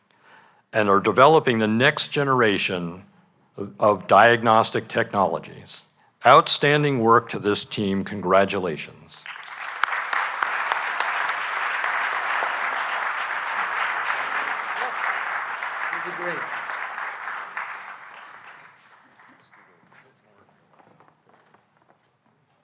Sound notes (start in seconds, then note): 9.2 applause